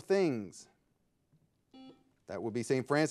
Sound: buzzer ringing

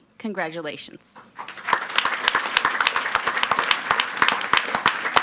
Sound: audience clapping

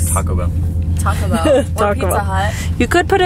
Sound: laughs

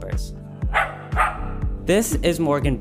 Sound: dog barking

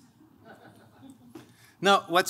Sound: laughing

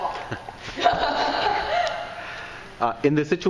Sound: laughing

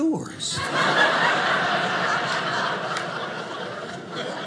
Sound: audience laughing

